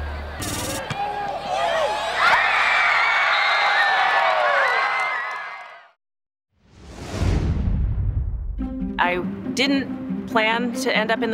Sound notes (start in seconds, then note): 0.0 crowd Cheering